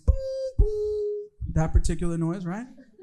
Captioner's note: imitating beeping